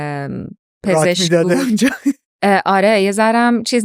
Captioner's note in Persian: خنده